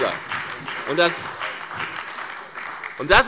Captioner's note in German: Beifall bei der FDP, der CDU und der SPD